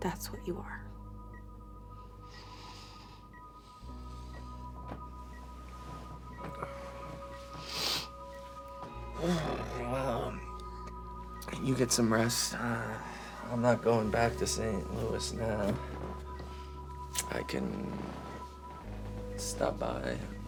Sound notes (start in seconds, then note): 1.9 dramatic electronic music; 7.5 Drew snivels; 9.2 Drew groans